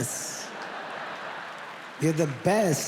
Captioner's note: audience laughs